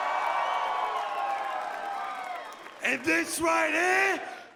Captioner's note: cheers & applause